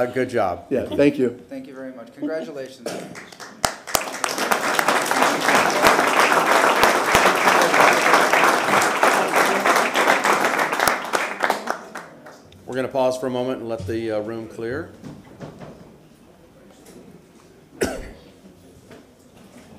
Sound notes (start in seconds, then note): 9.2 applause